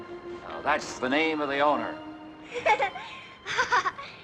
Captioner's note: girl Laughs